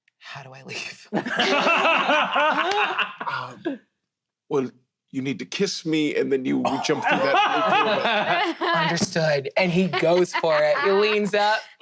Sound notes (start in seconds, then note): 1.1 laughter; 6.7 laughter